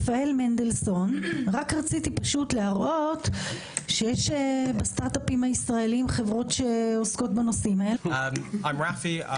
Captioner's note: chairperson, in Hebrew